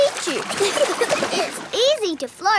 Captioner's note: giggling